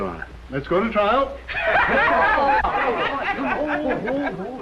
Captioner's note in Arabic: ضحك